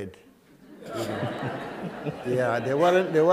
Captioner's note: laughter